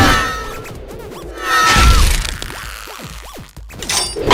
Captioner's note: all scream